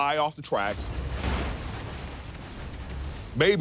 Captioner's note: metal crunching